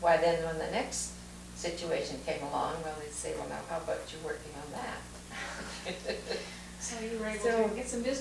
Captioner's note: laughter